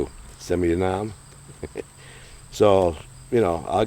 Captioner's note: both chuckle